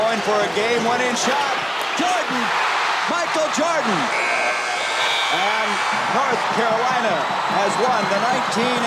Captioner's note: buzzer sounds